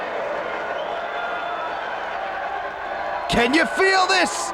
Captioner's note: spectators cheering